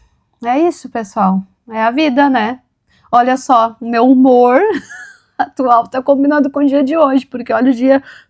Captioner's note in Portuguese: risadas